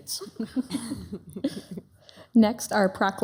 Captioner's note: city council members chuckling